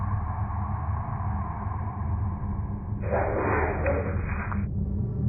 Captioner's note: static crackling; haunting music